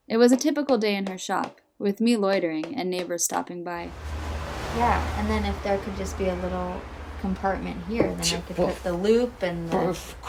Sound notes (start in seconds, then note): 3.8 engines rumbling